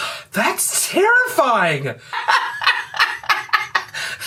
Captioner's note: raucous laughter